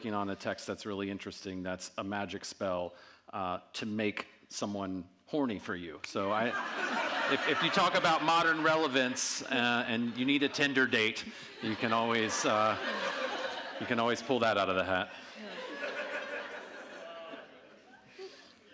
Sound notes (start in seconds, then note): 15.1 audience laughing